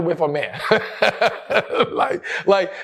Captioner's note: laughs